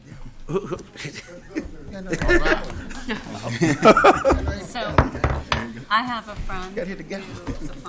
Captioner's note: laughter